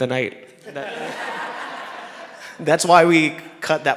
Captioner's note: people laughing